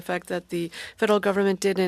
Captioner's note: speaking French